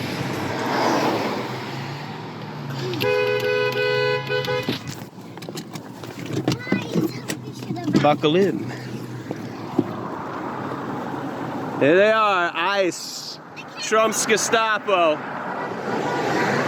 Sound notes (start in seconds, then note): 2.9 honking his horn; 6.6 kid noises